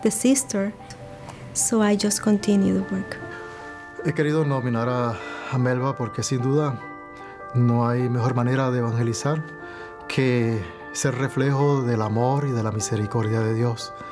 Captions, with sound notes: So I just continue the work. (speaks in Spanish)